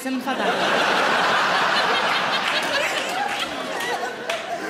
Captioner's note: audience laughing